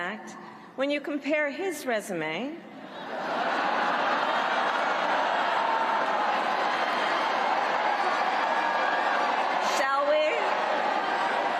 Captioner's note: cheers and applause